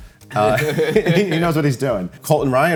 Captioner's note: both chuckle